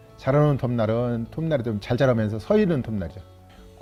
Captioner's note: none